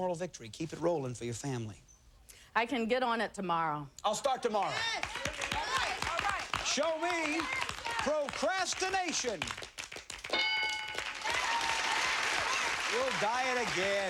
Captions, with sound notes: It's a moral victory. Keep it rolling for your family. I can get on it tomorrow. I'll start tomorrow. Show me procrastination. [cheers and applause] Will diet again.